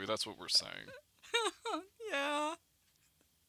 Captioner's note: soft chuckles